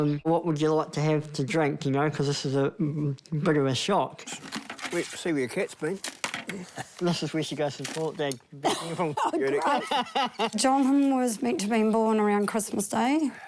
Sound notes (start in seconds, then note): 8.6 laughs